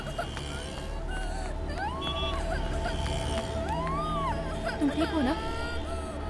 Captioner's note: Crying